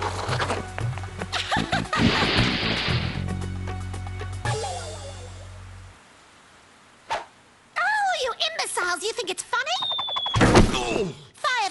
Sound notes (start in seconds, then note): 0.0 laughing; 2.0 splash; 9.5 whizzing; 10.4 thump